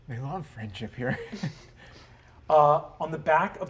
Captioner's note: chuckles